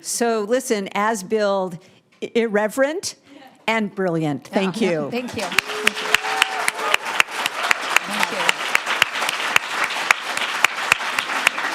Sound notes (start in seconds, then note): 5.2 audience applauding